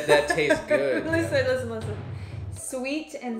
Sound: laughs

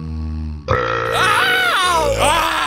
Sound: Jacksepticeye burping loudly; Pewdiepie burping loudly

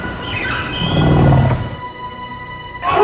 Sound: growling

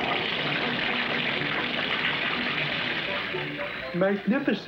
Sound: water Splashing

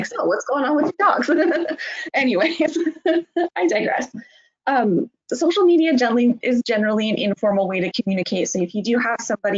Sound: laughing

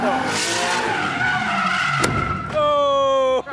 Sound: tires screeching

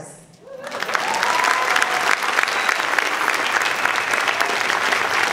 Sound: audience clapping and cheering

